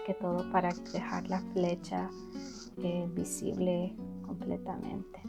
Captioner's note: silicone gun sound